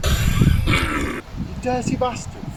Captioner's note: coughs in Latin